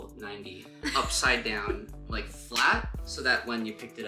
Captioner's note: laughing